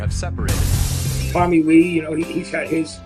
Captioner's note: glass breaking